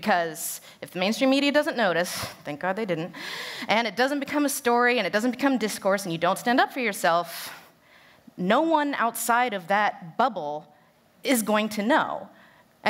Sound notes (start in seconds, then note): none